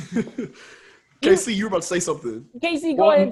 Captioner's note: laughs